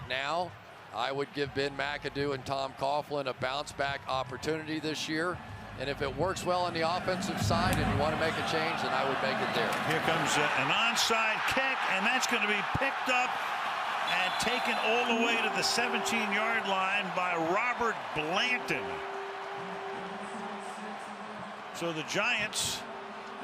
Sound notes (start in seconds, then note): 13.0 cheering; 14.4 pa announcement